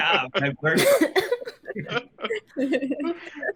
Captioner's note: laughing